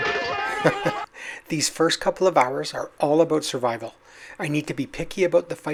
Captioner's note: chuckles